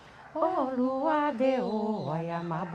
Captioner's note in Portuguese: cântico sagrado continua; pássaros cantam ao fundo